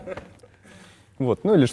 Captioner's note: laugh